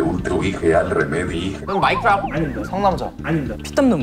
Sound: again, shouting out wrong answers

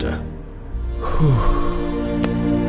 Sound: sighing

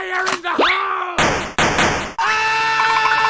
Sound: bullet Noises

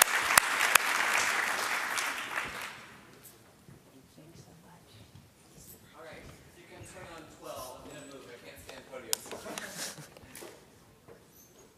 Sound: applause

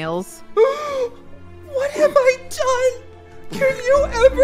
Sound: gasp

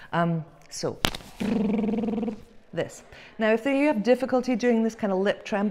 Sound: lip tremble sound

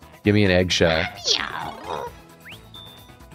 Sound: Toad voice

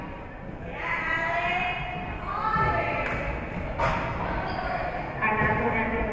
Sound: spectators shouting encouragements

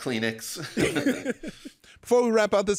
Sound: laughing quietly

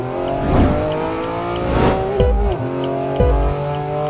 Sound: mythical BMW blinker sound

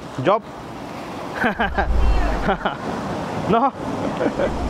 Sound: laugh

